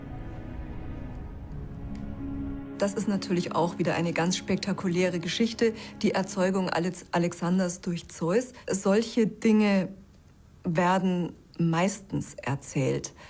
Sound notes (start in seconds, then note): 3.0 in German